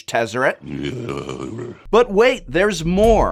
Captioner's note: grumbling